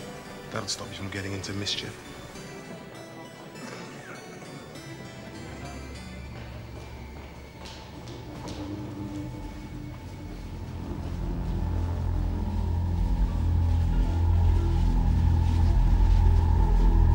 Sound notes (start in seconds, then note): 3.5 background harpsichord music; 3.5 background people chattering; 6.9 soft tense music